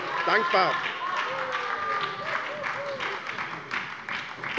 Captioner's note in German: Beifall bei der SPD - Zurufe von der CDU: Oh!